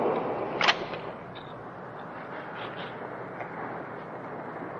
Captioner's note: gun clicking